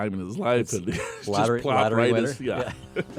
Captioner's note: laughs